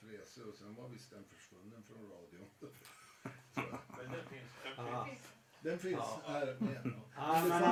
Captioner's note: laughter